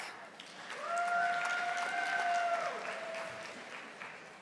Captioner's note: audience applauding